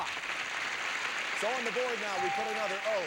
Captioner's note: audience applauding